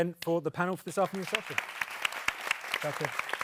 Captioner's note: audience clapping